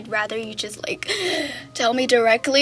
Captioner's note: nervous inhale